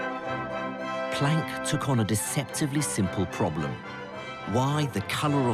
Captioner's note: voiceover